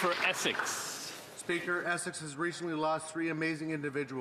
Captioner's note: cheering and Applause